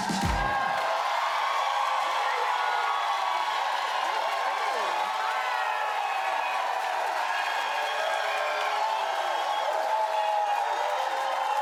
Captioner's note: cheers and applause